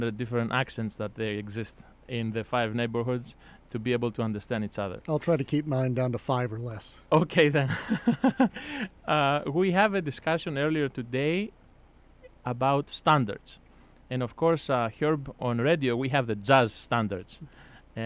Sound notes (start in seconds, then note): 7.6 laughs